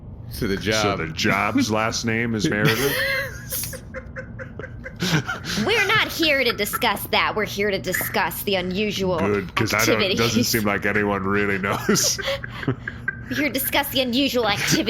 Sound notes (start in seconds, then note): 5.7 more giggling